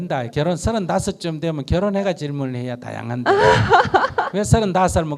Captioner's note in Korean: 질문자 웃음